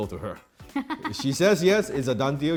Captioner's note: laughs